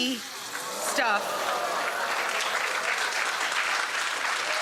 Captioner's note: audience applause